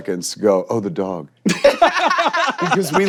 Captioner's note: laughing